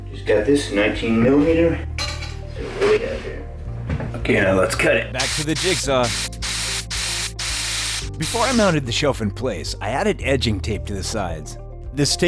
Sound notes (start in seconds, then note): 6.2 sawing sounds